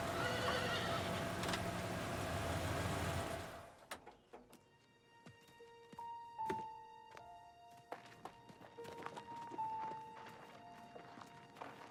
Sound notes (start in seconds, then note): 0.1 horse neighing; 4.6 melancholy music